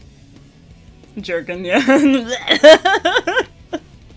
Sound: rock music; gagging sounds, laughter

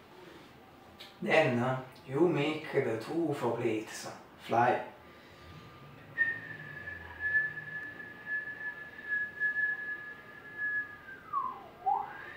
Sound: whistle

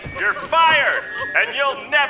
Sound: through megaphone

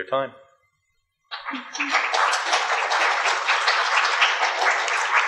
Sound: audience applause

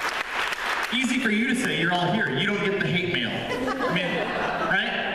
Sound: applause; laughter

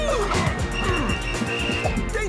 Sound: whistle blowing

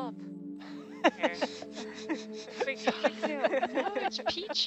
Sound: laughing

